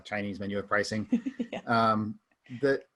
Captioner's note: chuckles